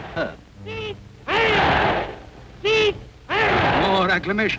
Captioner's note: crowd chanting